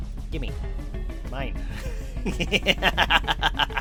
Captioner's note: maniacal laughter